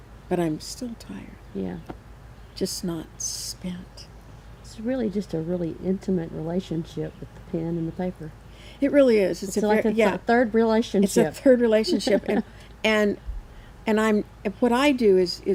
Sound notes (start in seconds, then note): 11.2 chuckles